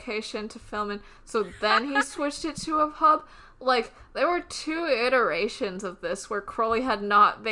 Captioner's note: laughs